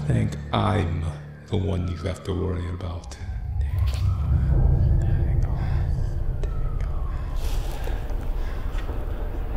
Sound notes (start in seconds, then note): 4.0 Scarecrow whispers